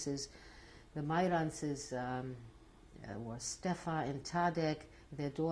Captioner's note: non-english